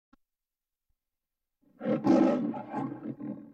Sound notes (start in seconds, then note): 0.0 silence; 1.8 Leo the Lion roaring